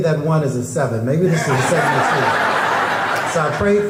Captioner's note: crowd laughing